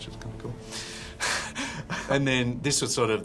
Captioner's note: chuckles